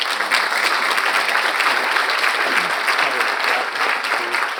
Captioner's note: audience applauds